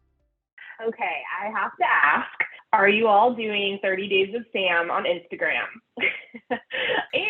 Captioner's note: laughter